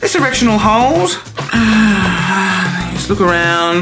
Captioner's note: sighs